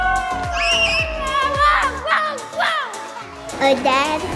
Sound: all cheering; shouts happily

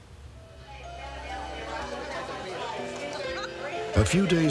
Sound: people conversing

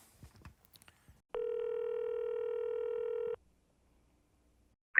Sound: phone number dialing sound

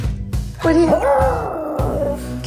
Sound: dog howling

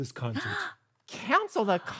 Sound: gasping

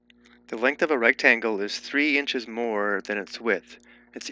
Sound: voiceover

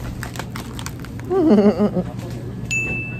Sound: giggling

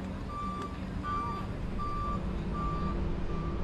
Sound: bus beeps

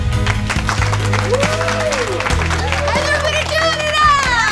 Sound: audience applause

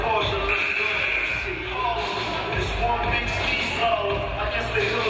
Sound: game buzzer buzzes

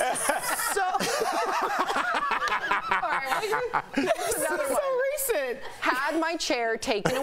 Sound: laughter

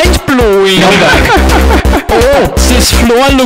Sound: hilarious laugh

